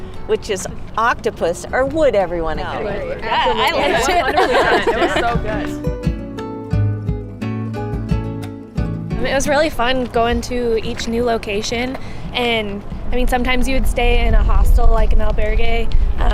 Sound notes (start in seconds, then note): 2.8 students laugh and agree